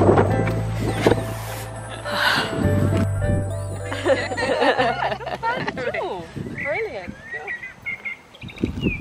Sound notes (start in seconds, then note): 3.7 group laughter